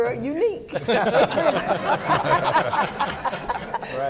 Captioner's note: laughing